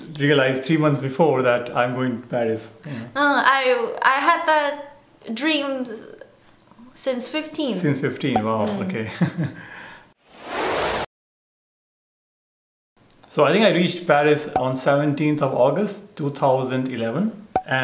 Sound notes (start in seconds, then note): 9.0 laughter